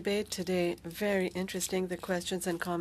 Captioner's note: speaking French